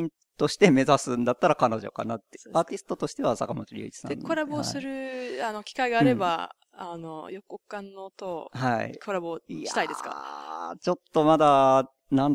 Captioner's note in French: rire